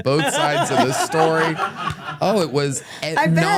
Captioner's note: everyone laughs